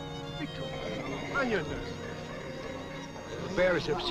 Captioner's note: group chattering